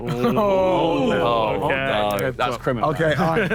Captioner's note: Sidemen groan